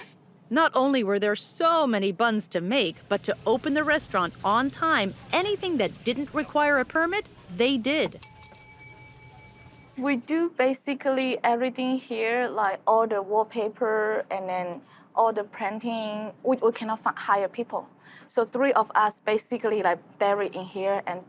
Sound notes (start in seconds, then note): 8.2 bell dings